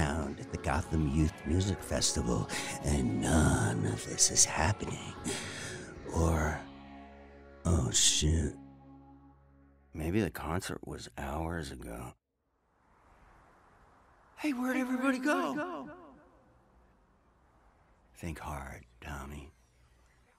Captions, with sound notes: at the Gotham Youth Music Festival, and none of this is happening. Or... Oh, shoot. Maybe the concert was hours ago. [wind blowing] - [echoing] Hey, where'd everybody go? - Think hard, Tommy.